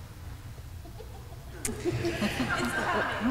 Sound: laughter

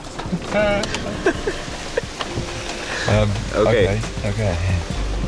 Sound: hearty laughing

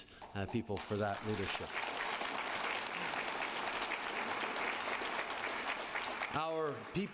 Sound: applause

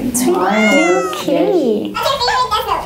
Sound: meowing

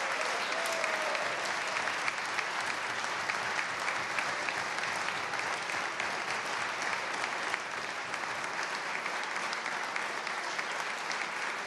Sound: applause

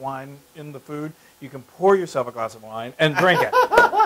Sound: laugh

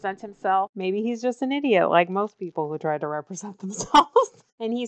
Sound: laughs

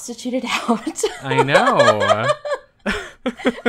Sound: laughs

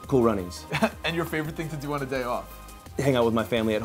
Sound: chuckles

